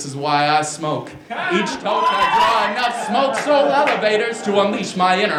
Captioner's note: applause